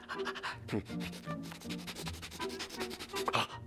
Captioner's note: sniffing